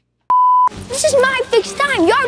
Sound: beep

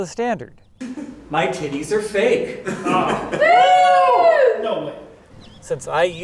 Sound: woooo

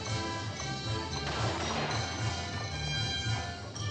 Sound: gunshots

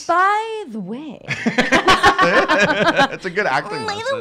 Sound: laughing

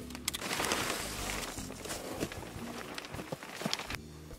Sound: plastic crinkling

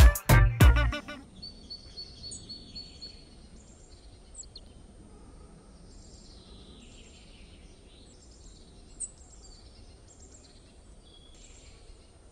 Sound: p￡jaros cantando; p￡jaros cantando

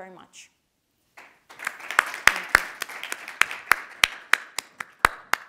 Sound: audience applauding

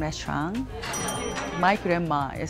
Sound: bell dings

